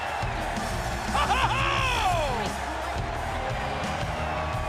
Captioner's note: Jerry laughing